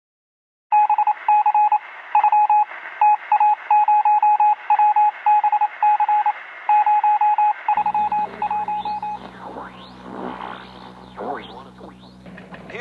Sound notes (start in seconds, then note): 0.9 morse code; 7.7 radio static, tuning